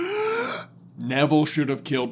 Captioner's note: deep inhale